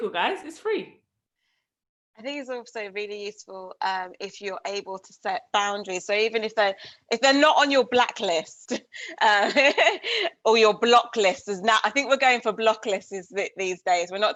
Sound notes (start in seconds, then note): 9.8 laughs